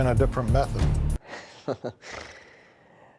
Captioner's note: chuckles